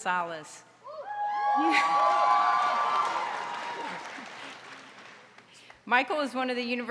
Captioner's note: audience cheering and applauding